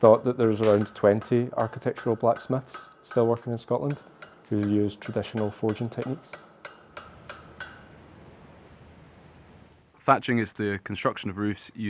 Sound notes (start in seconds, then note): 6.9 tools banging